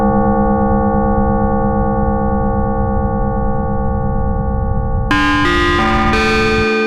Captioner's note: an Evil chime